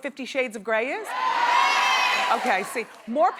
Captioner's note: audience cheering yes